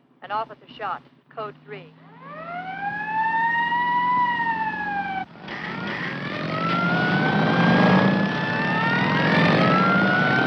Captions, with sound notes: An officer shot. Code 3. (Siren blaring) - (Engines revving) - (Sirens blaring)